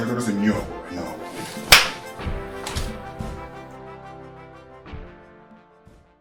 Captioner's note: slap; gun cocking